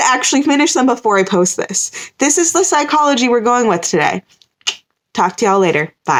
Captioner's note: mouth click noise